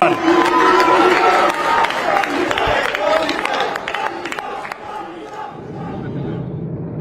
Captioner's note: crowd cheering